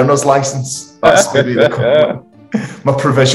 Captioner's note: laughing